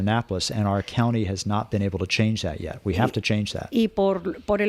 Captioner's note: Hablando ingl\s